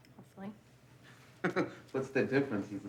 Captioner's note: laughs